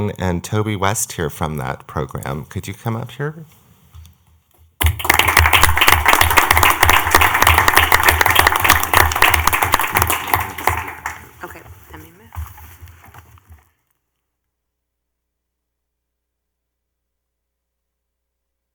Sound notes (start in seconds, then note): 7.2 clapping